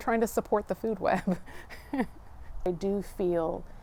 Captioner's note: laughing